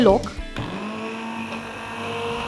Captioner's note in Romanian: sunetul blenderului